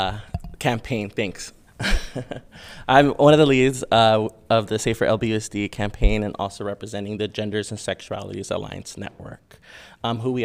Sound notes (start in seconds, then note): 1.8 chuckling